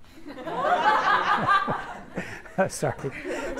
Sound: everyone laughs

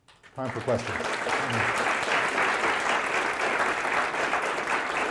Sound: applause

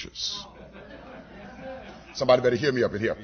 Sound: laughter

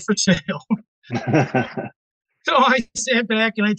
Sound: laughing

